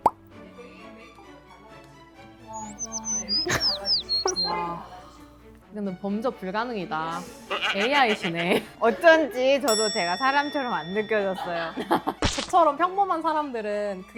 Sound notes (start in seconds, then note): 2.6 gasps of amazement echo through the studio